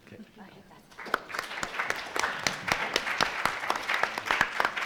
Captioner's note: audience applause